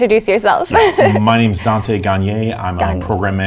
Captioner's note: laugh